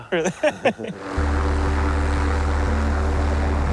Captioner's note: rotors hum